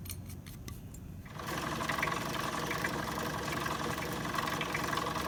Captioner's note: pump running